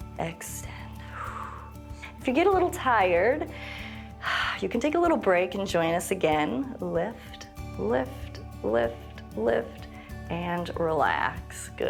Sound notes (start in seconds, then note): 0.7 exhales; 3.5 inhales and exhales